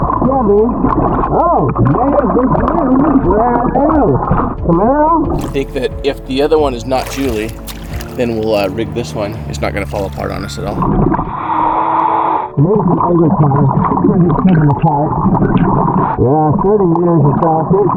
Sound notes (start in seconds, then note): 11.1 oxygen bubbling in water; 11.1 oxygen tank hissing